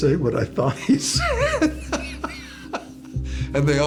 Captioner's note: laughs